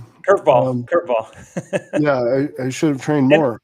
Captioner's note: laughing